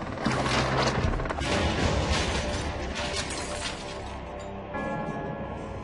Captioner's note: glass shattering